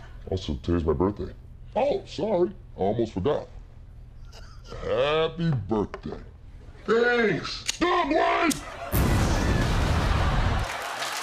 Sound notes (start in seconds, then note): 0.0 deep voice; 8.9 explosion; 10.6 cheers and applause